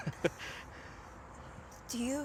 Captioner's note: chuckles